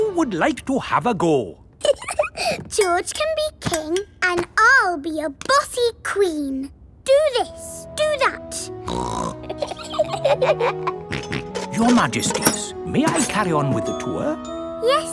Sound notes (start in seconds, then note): 1.8 giggles; 8.8 snorts; 9.4 both giggle; 11.1 snorts